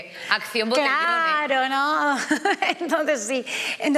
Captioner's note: she laughs